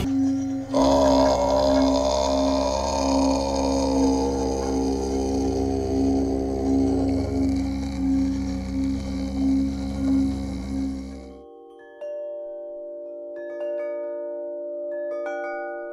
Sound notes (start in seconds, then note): 0.2 tone resonating; 1.5 chanting; 11.9 chimes ringing gently